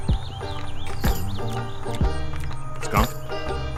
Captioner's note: country-style music; smacks lips